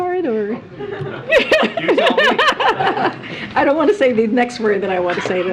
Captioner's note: laughter